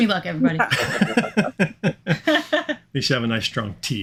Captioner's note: chuckling